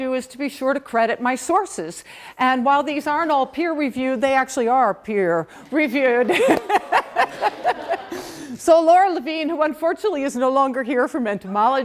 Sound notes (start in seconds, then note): 6.2 laughter